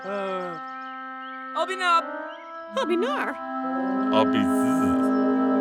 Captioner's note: both speaking gibberish